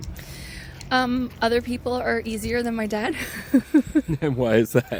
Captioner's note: laughs